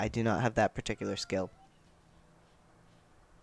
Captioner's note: meow